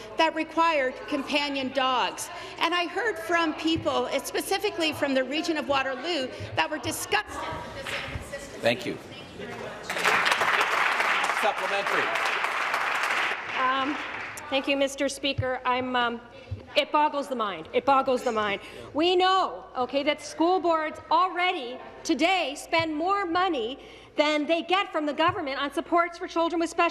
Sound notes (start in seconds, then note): 12.0 applause